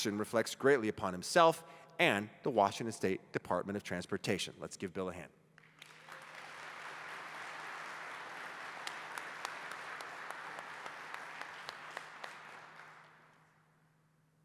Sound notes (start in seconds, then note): 5.6 applause